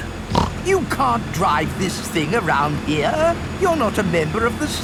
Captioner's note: snorts